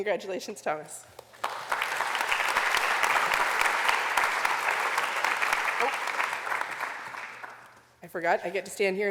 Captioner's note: applause